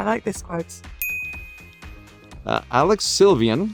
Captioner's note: graphics chimes